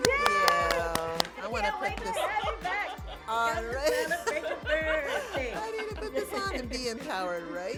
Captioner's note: cheering